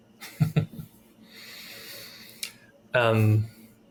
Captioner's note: chuckles